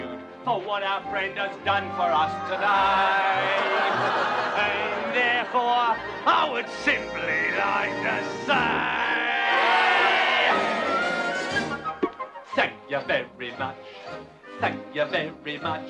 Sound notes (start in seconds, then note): 3.3 all laugh